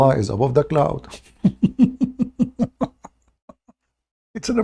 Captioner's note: Ketawa